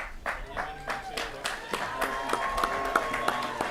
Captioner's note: applause and cheering